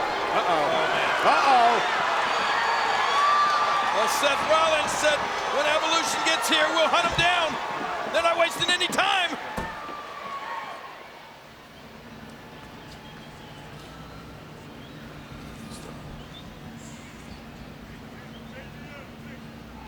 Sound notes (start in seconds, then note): 2.3 audience cheers